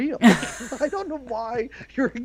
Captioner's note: laughs